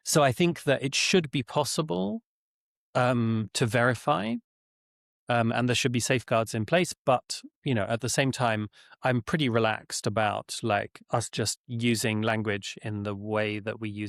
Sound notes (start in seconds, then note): none